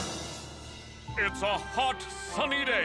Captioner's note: radio Announcer